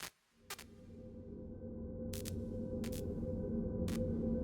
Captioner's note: static bursts